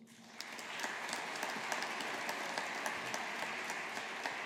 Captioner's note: audience applauding